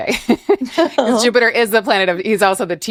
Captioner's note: both laugh